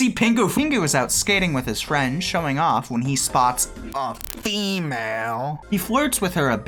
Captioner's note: distorted voice